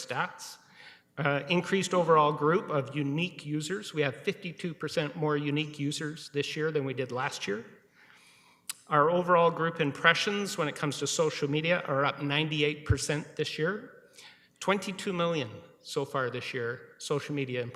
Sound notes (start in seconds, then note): none